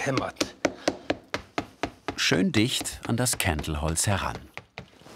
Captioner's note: knock